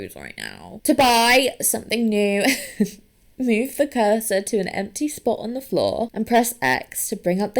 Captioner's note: laughs